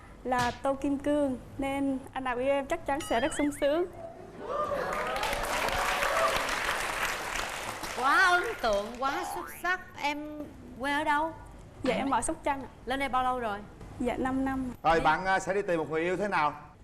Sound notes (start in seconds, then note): 4.8 applause